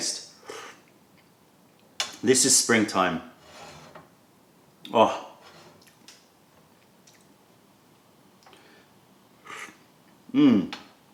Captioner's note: sips tea